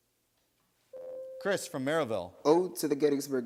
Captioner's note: buzzer sounds